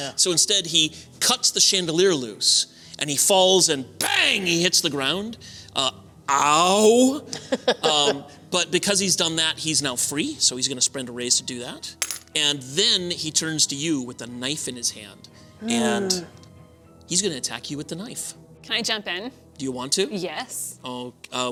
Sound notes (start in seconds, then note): 7.2 laughter